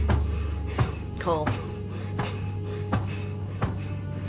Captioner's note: Cole panting